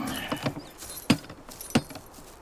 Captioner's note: hammering softly